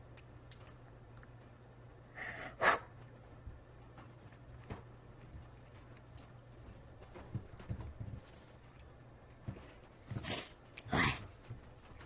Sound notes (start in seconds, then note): 2.1 crying